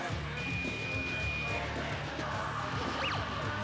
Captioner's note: beeping